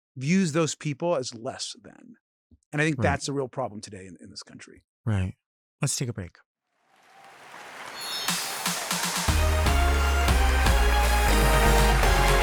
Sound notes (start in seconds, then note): 6.9 audience applauding; 7.9 bright music